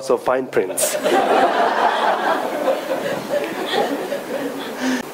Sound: audience laughing

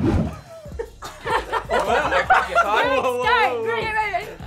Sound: laughing

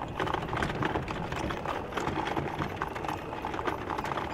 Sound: none

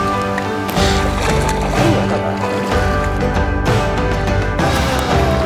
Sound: fish flaps in water

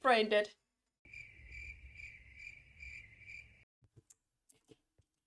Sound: cricket noises

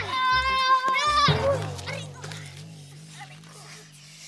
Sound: both shouting; both groaning

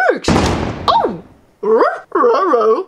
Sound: loud clank

